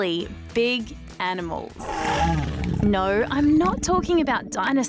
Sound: growling

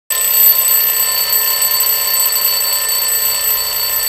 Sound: alarm clock ringing

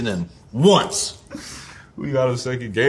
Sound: RJ laughs

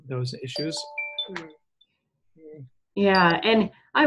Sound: device ringing

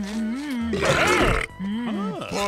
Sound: belching

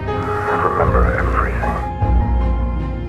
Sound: through the phone

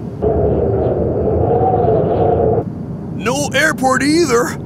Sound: wind blowing

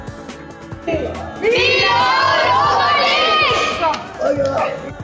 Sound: shouthing

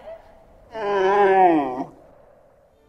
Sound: dromedary blathering

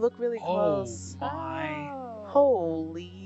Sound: people gasping

